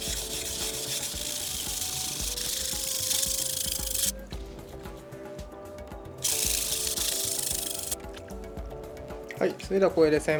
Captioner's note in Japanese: 刃先を研ぐ音